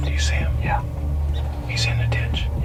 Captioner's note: whispering